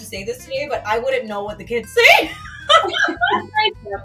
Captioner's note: laughs